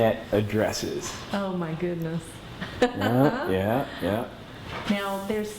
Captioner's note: laughs